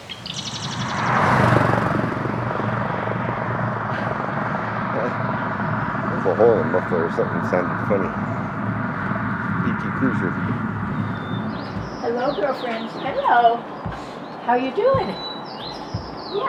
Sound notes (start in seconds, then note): 0.0 loud Muffler